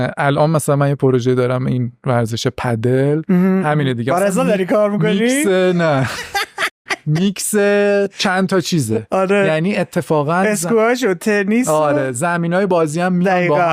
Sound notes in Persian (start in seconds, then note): 5.8 خنده